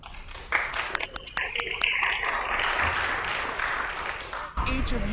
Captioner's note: congregation applauds